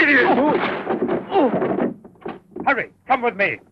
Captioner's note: clattering; grunting